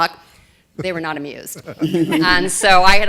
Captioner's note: laughter